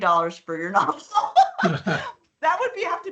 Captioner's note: laughing